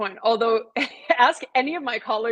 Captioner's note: laughter